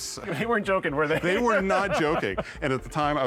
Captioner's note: laughs